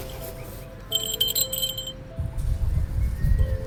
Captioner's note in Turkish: Köpeğin Boyun Zili Sesi